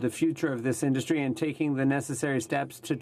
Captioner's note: speaking French